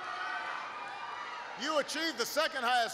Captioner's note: applause